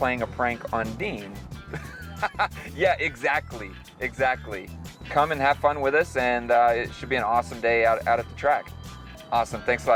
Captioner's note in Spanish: risas